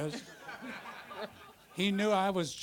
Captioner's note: audience laughter